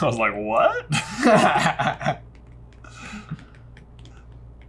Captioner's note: laughs